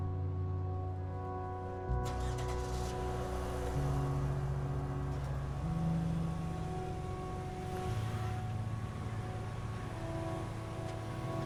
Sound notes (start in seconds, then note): 3.4 car engine revving